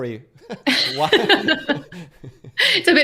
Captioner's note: laughter